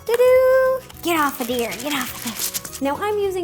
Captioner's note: rattling